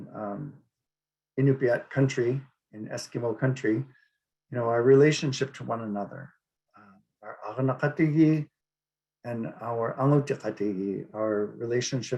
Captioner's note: speaking Inupiaq